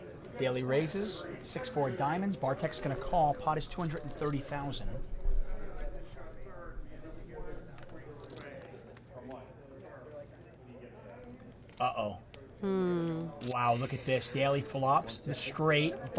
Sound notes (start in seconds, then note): 5.4 crowd chatting